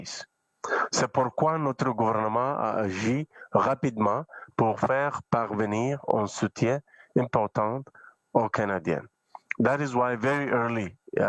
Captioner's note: speaking French